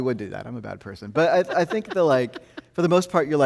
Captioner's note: host laughing